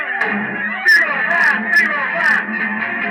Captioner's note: speaking French